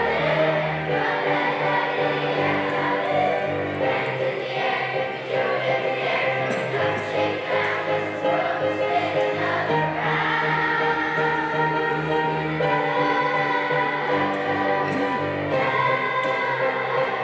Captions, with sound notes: Let's go to the dance party Let's go to the dance party Dance in the air If you do it if you dare Turn it up Shake it down In the world Spin it all around (cheering)